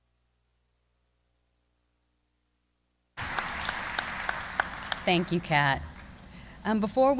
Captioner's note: applause